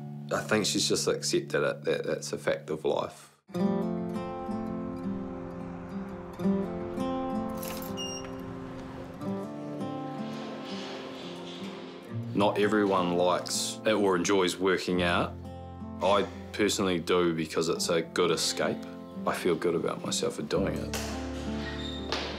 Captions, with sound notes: I think she's just accepted it — that that's a fact of life. (LIGHT GUITAR MUSIC) (BEEP!) Not everyone likes or enjoys working out. I personally do, because it's a good escape. I feel good about myself for doing it.